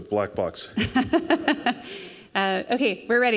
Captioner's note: crowd laughing